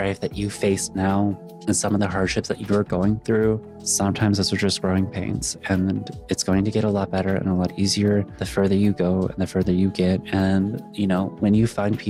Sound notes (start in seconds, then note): none